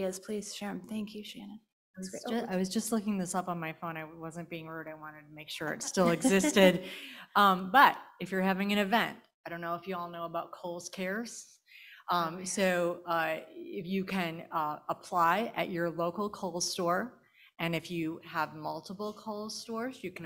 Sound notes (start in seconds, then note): 5.9 panel laughing